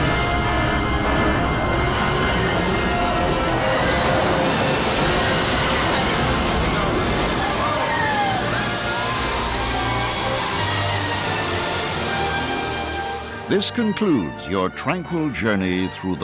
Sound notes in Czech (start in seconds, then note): 0.8 dinosauří řev; 7.8 lidé jásají